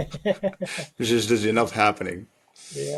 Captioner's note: laughing